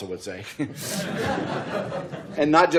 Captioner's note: laughter